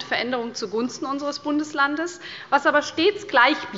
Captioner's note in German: none